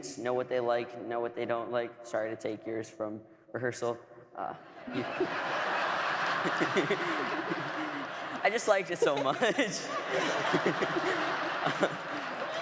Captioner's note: laughter